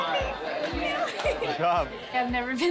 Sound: laughs

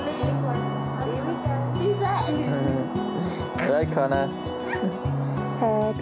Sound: chuckles

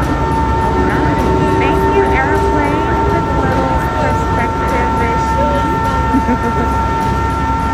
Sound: laughs; loud crane noise

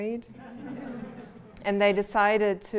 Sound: laughter

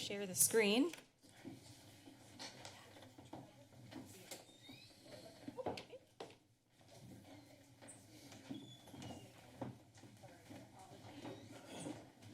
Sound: background conversations

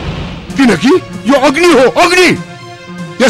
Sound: fire

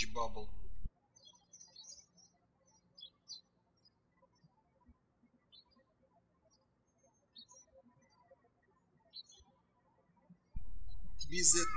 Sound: birds chirping

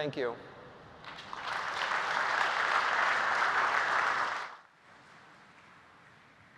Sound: applause

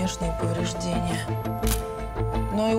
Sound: camera clicking

